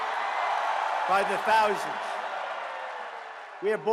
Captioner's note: cheering and applause